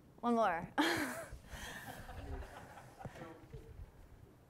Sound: class chuckling

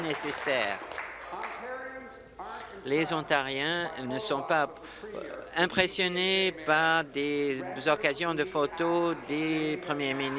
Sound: applause

